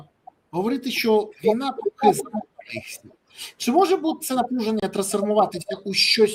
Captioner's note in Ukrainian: сопіння